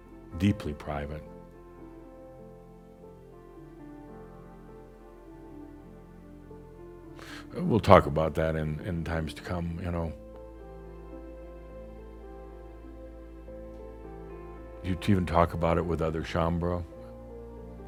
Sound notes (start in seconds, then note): none